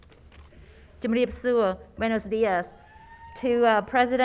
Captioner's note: speaking in foreign language